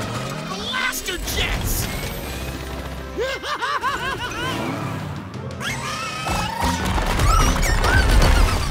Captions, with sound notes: Blaster Jets! [laughs]